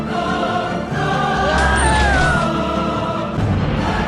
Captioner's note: Another scream from "Perfect Dark"